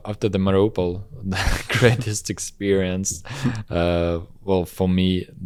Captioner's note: laughs